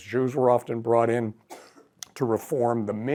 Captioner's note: throat clearing